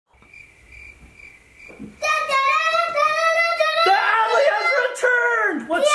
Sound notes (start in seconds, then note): 0.1 crickets chirping